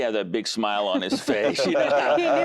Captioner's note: laughter